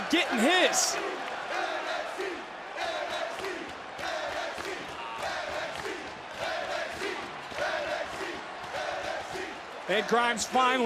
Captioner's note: crowd chants "nxt"